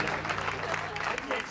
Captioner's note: crowd